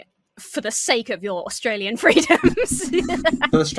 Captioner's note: laughs